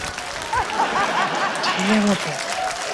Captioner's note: laughter